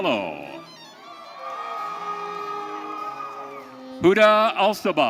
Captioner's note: audience cheering